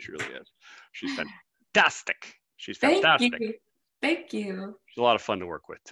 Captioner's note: chuckles